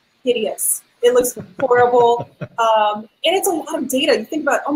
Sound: laughing

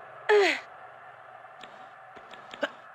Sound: grunting

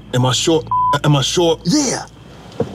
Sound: beeps

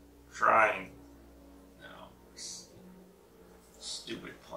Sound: plane noise

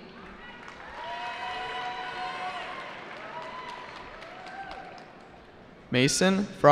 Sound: cheering

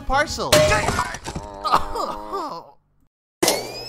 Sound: bonk; Oodle groans in pain

